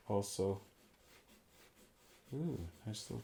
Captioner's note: pencil scratching